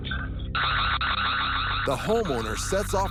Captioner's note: alarm goes off